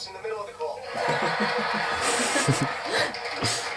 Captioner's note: audience laughter; all laugh